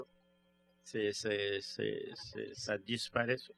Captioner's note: speaking french